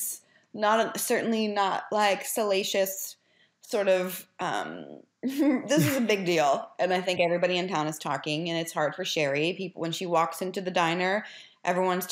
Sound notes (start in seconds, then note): 5.7 chuckles